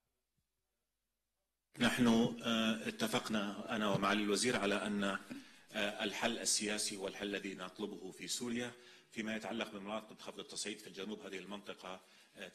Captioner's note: speaks in Arabic